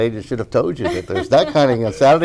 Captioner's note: laughing